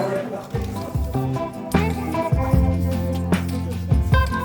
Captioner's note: spray painting sounds